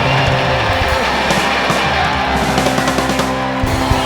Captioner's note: applause and cheering